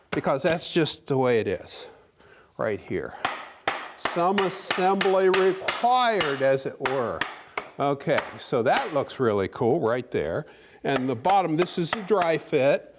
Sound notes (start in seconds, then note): 3.2 hammering noise